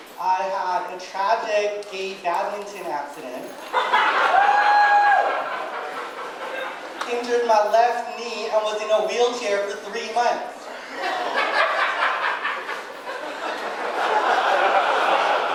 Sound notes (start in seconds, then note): 3.6 audience laughing and cheering; 10.6 audience laughing